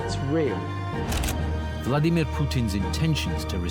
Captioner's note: dramatic music; slide clicks